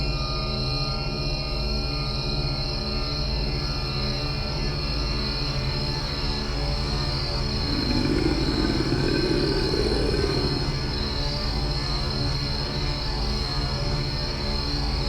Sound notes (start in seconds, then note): 7.0 growling